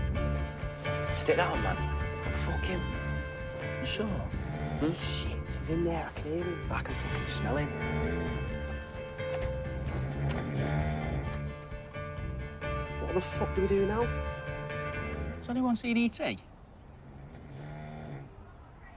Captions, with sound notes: - Stick that on, man. - Fuckin'! - You sure? - [snoring] Bullshit. He's in there. I can hear him. I can fucking smell him. [snoring] What the fuck do we do now? Has anyone seen E.T.?